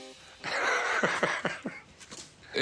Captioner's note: laughs